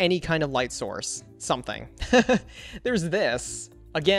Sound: laughs

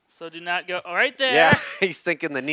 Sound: laughs

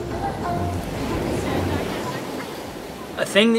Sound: wind blowing; waves crashing

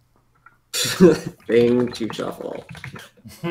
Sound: laughs

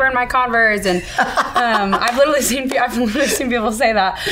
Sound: laughing

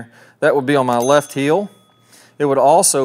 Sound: subscription bell chimes

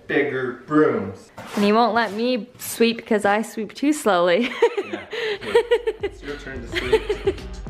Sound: laughing

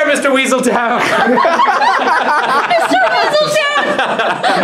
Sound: laughs

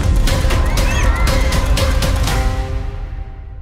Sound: collective gasp

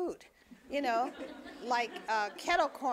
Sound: audience laughing

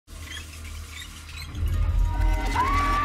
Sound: sound of water running and squeaky wrench

